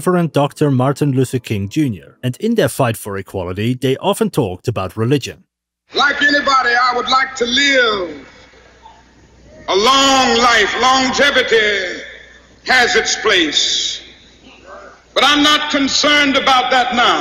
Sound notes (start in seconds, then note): 5.9 speech